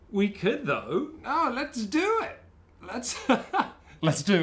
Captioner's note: laughs